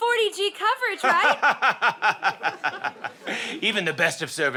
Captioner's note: laughs